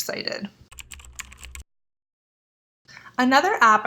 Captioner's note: keyboard typing